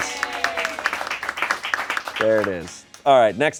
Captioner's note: crew cheers and applauds